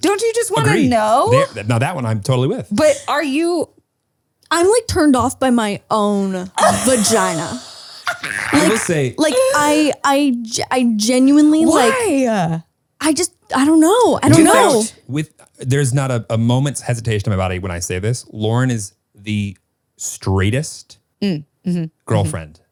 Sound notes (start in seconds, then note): 8.0 laughs